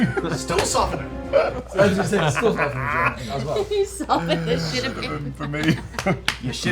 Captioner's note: giggling